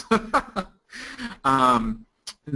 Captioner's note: laughing